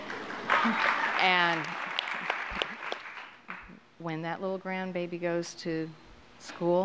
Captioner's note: applause